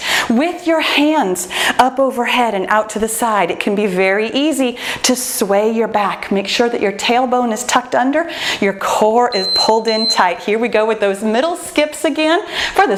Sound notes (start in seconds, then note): 9.3 timer beeps